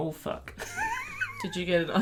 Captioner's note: laughter